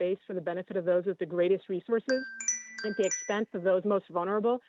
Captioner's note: chime